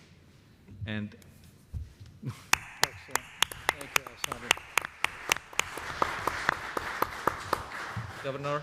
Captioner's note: applause